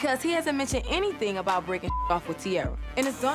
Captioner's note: beep